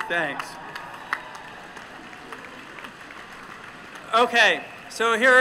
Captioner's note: applause